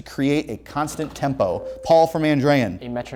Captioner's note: ringing